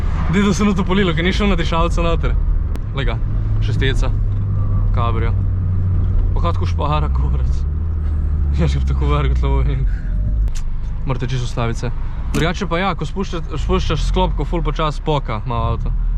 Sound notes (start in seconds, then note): 12.3 brake sound